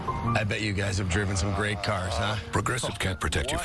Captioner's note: groans